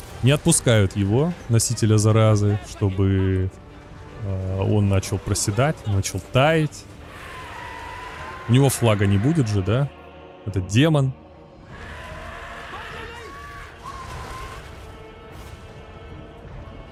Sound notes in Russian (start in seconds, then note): 13.1 крик